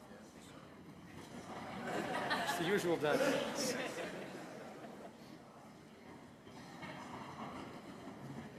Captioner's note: laughter